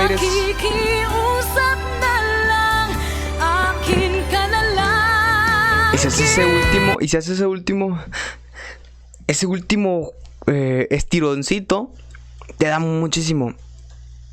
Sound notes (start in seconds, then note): 8.0 breathing